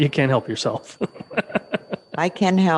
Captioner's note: mayor laughing